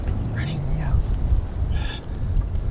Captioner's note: whispering